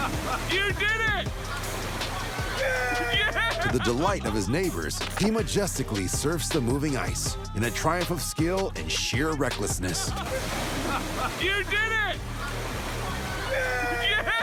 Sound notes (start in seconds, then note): 2.0 cheering